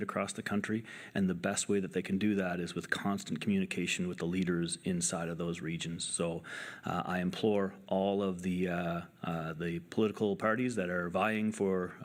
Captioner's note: speaking French